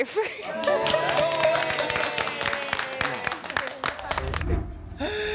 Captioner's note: chuckles; group cheering and clapping; sighs